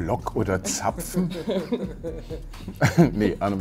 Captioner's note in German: Lachen